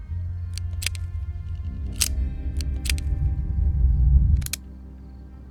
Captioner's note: gun barrel clicking; gun cocking